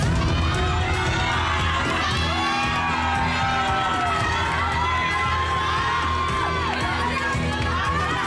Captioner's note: audience cheering